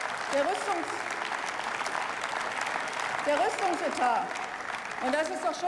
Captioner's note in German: Beifall